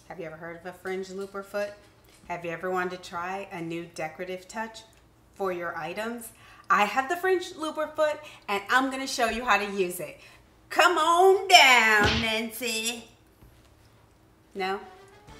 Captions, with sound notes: Have you ever heard of a fringe looper foot? Have you ever wanted to try a new decorative touch for your items? I have the fringe looper foot and I'm gonna show you how to use it. Come on down, Nancy. (whip cracking) No?